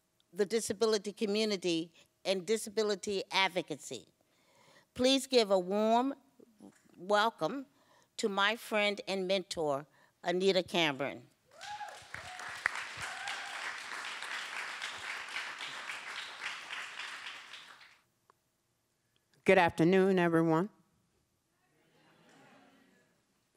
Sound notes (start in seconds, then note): 11.5 applause